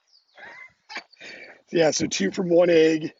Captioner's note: laughs